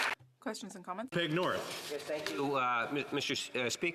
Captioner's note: applause